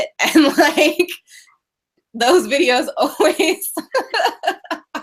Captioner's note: laughing